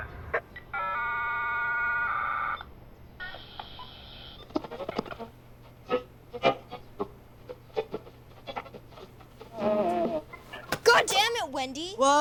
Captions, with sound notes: [radio screeching] [scattered sounds over radio] God damn it, Wendy!